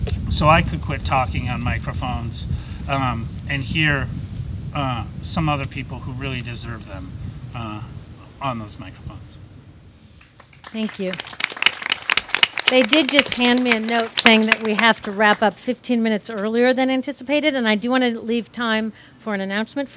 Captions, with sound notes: So I could quit talking about microphones and hear some other people who really deserve them on those microphones. - Thank you. (audience claps) They did just hand me a note saying that we have to wrap up 15 minutes earlier than anticipated. And I do want to leave time for an announcement